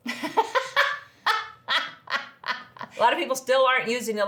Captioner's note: laughs